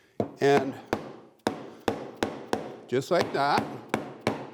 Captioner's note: hammer thudding